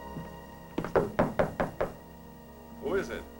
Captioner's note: knocking